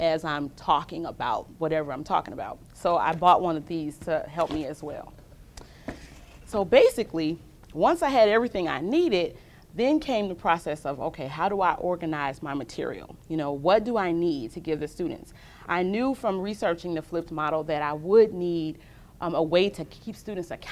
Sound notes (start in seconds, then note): none